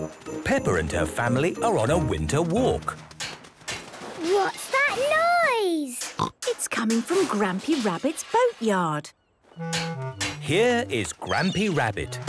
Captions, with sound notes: Peppa and her family are on a winter walk! - (distant banging, crashes) - What's that noise? - Snort! It's coming from Grampy Rabbit's boatyard! - Here is Grampy Rabbit!